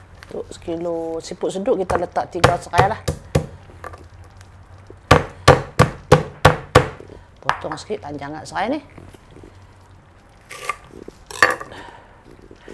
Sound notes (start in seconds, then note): 4.8 crushing sound of pestle against lemongrass